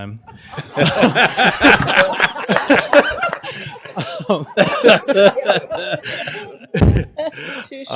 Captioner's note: laughter